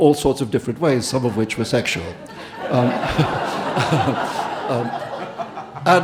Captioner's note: Audience and Salman laughing